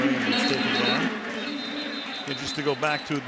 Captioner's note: whistle blows